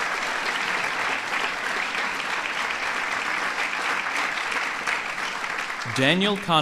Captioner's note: applause